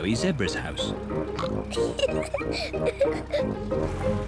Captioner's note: oinks and giggles